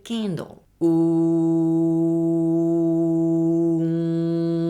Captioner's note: oooooooooo